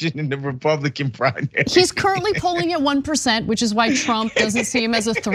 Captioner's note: laugh